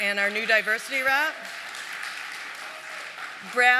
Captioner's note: applause